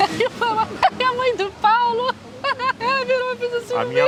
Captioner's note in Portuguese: rindo